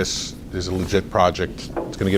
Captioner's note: rustles papers